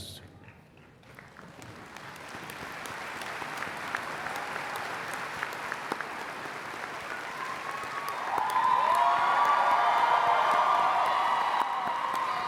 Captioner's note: applause